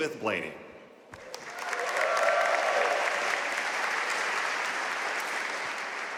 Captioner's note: audience cheering and applauding